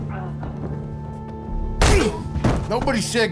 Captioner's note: thud, grunt